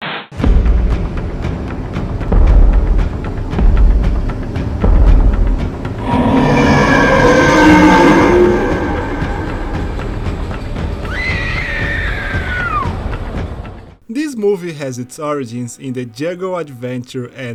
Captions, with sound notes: *roar* *scream* This movie has its origins in the jungle adventure